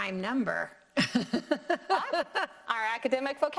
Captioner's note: both laughing